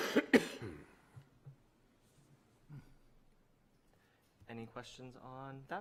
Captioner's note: cough